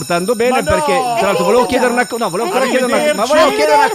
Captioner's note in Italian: suona la campanella